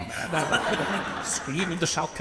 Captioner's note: audience laughs